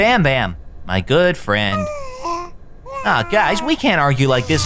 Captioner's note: Bam Bam babbling